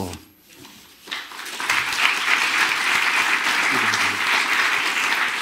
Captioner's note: audience clapping